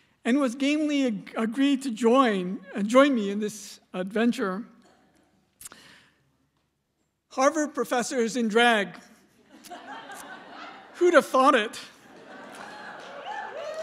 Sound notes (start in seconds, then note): 9.3 laughter; 12.2 cheers